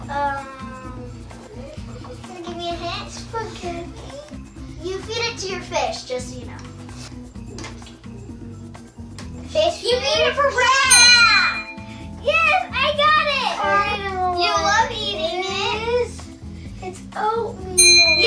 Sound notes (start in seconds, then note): 10.8 ding; 17.8 ding